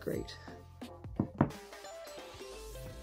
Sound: mug thumping down

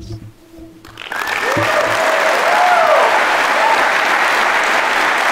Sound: audience clapping

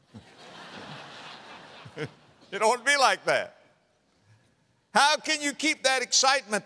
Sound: audience laughter

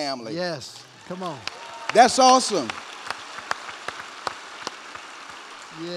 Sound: cheers and applause

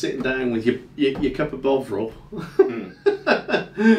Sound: laughing

